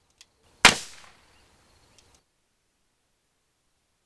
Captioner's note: gun fires